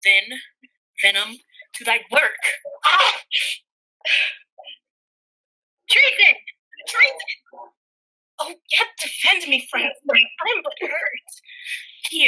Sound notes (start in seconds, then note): 2.7 groans